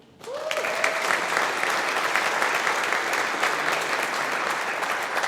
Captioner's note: audience applauding